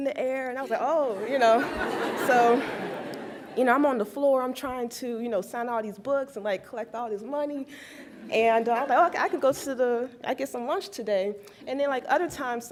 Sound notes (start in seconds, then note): 1.1 laughs